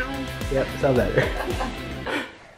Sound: laughing

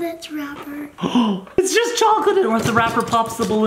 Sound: gasps

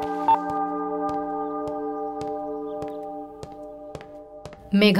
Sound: footsteps

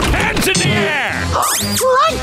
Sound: gasping

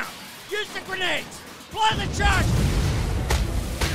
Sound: explosion; thuds and impacts

